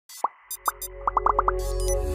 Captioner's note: ethereal electronic music; bubbles popping